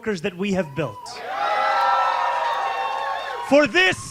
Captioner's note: cheering